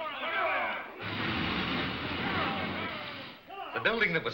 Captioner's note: mob shouting